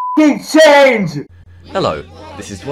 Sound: crowd

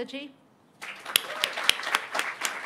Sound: applause

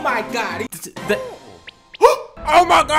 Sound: stutters; gasp

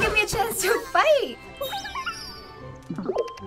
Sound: Beep-O beeping

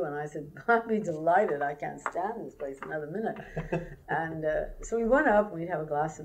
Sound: laughter

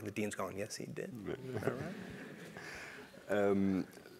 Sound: laugh

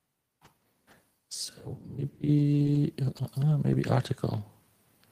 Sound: hums

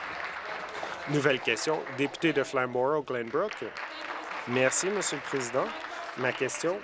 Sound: applause

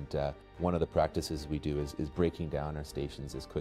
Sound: voiceover

